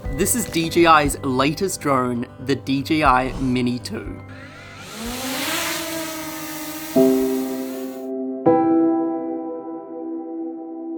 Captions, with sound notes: This is DJI, latest drone, the DJI Mini 2. (drone shrieking) (upbeat music)